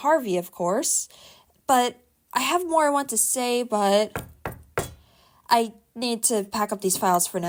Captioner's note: knock knock knock